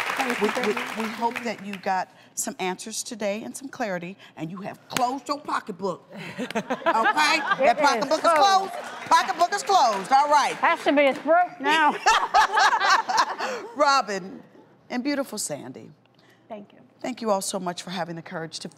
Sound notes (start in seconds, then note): 11.7 laughter